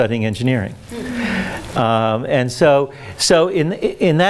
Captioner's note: audience moans